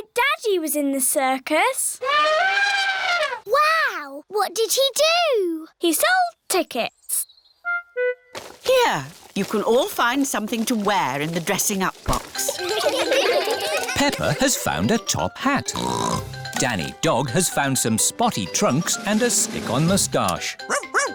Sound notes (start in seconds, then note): 2.0 trumpets; 12.4 all giggle; 15.7 snorts